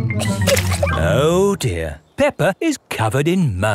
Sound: chuckles

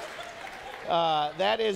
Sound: congregation laughing

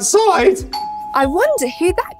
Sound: doorbell rings

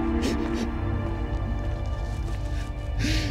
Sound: whimpering

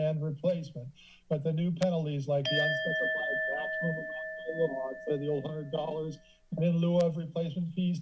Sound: alarm sound

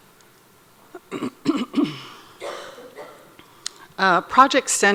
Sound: clears throat

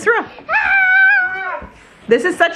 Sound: shouts

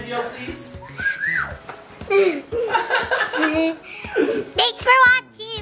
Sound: panting

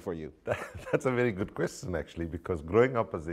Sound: chuckles

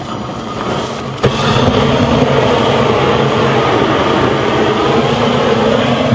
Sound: grilling machine roaring

